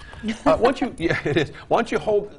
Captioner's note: female laughs